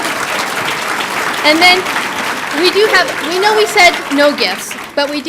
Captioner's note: laughter and applause; applause